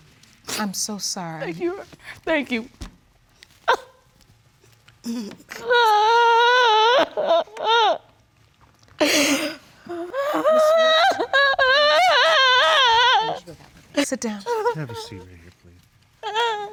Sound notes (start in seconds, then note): 3.6 cries; 5.5 wails; 11.4 continues wailing loudly